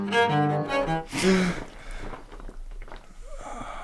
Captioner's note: David gasps for air